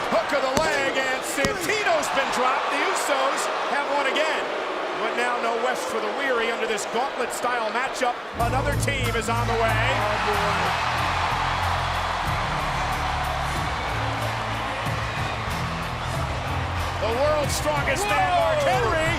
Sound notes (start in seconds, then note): 4.3 crowd booing; 8.4 upbeat music; 9.8 crowd cheering